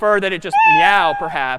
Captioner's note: meow